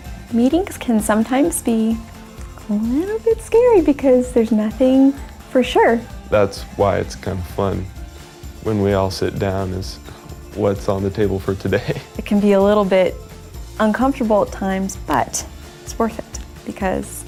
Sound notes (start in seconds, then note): 11.8 laughter